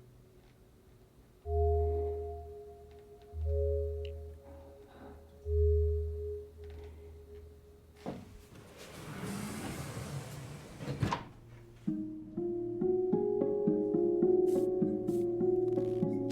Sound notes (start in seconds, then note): 9.8 door slides; 11.4 instrumental music playing